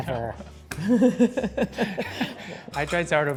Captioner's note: laughs